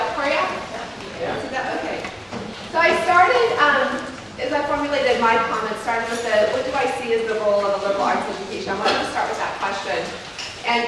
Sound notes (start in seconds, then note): 0.5 murmured agreement from audience